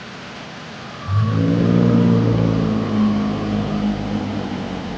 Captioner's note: dinosaur growling